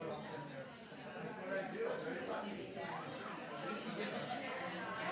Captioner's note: background chatter